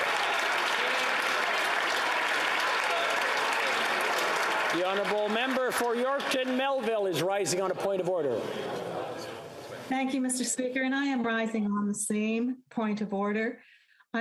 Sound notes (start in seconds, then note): 0.0 applause